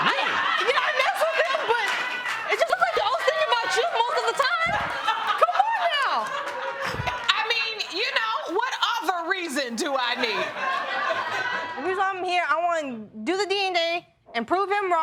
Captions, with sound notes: Yeah, I messed with him, but I was thinking about you most of the time! (LAUGHTER) Come on now! I mean, you know, what other reason do I need? I'm here, I wanna do the DNA and prove him wrong